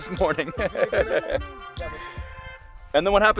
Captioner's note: laughing